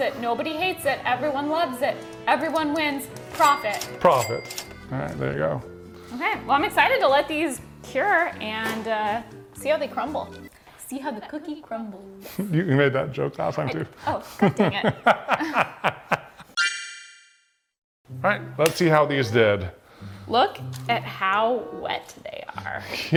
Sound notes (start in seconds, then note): 14.2 laughing